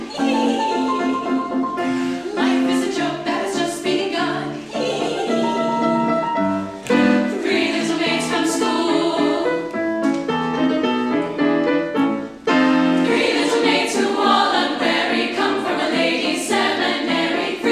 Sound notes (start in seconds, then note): 0.0 singers giggling; 4.6 singers giggling; 10.3 lively piano music